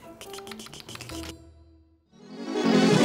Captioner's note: both simulate keyboard clicking; bright music